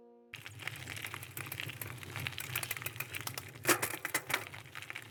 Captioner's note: bike wheel clicking